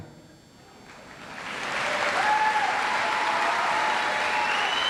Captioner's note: audience applauds